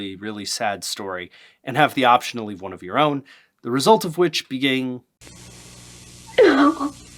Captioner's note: crying Woman